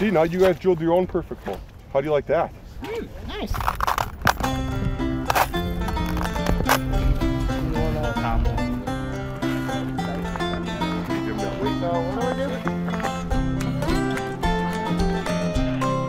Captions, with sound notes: - See now you have drilled your own perfect hole. How do you like that? - Hmm, nice. (crunching ice) (banjo music)